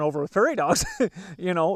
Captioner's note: laughs